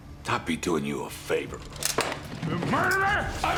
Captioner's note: both clamoring